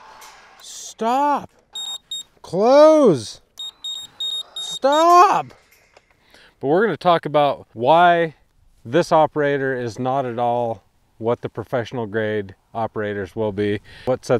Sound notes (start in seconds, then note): 1.7 control panel beeping; 3.6 control panel beeping